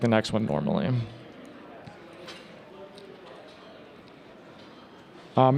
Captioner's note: attendees chatting